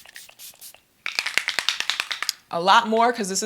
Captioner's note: spray hisses; spray can rattles